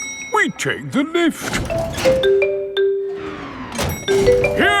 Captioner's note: elevator dings